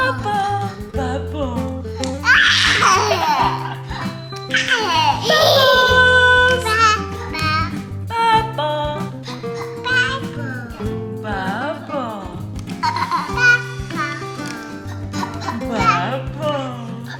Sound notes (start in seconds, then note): 2.4 baby laughs